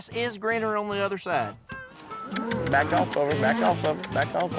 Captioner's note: calling